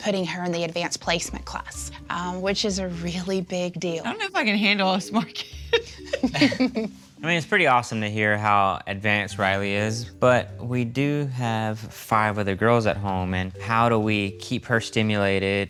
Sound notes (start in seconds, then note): 5.4 laughs